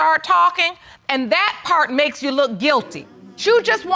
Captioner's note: audience gasps